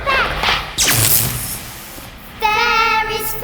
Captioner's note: electricity crackling